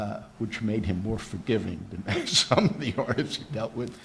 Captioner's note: laughs